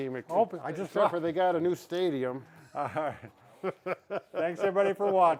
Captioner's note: both laughing